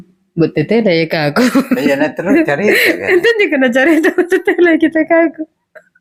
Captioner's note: laughs